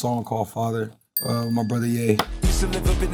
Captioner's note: bell dings